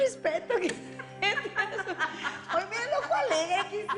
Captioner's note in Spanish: Risas